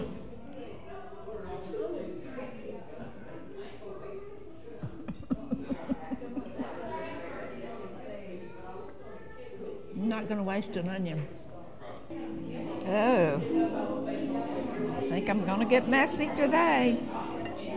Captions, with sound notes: (laughing) I'm not gonna waste an onion. Oh, I think I'm gonna get messy today.